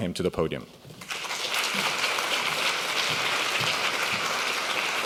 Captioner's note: applauding